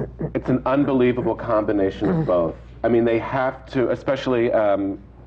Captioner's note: sighs